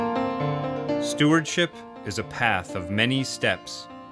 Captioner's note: voiceover